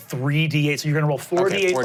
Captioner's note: dice clanking